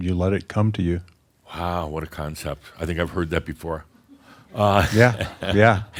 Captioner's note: chuckles